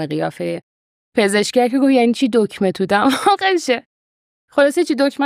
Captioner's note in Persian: خنده